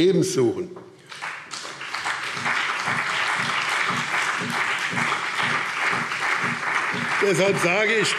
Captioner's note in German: Beifall BÜNDNIS 90/DIE GRÜNEN und CDU